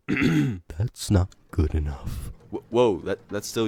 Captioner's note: clears throat